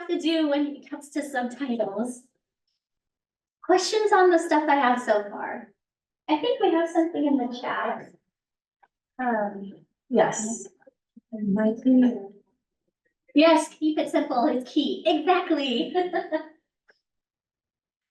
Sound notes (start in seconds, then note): 15.7 laughs